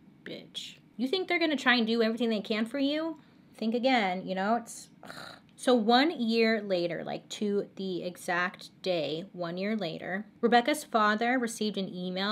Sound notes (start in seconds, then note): 5.0 sighs